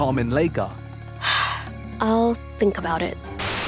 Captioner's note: sighs